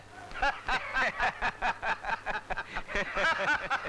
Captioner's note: Laughs